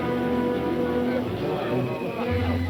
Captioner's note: men chattering; lighthearted music